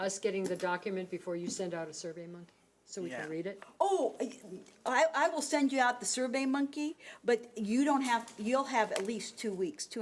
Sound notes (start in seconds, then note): none